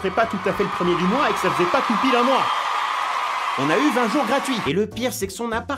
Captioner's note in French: La foule s'exhalte